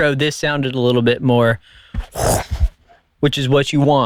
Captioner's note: whooshing whip sound